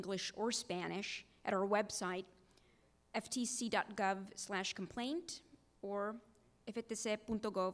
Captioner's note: speaking Spanish language